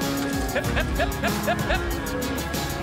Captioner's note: calling cattle